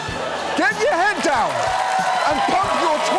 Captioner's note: studio audience cheers, applauds